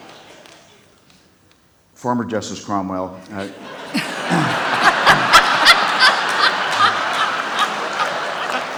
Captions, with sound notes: - Former Justice Cromwell... (laughing)